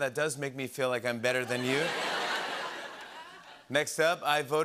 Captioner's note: laughter